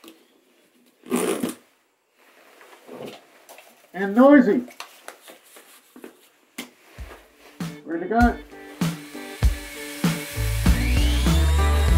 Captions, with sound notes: (straps clicking) And noisy. Ready to go. (upbeat music)